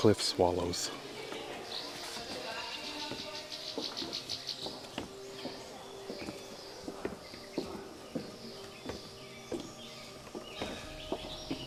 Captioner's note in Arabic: غناء الطيور